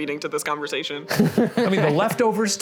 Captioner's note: laughing